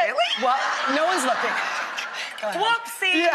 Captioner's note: laughter and applause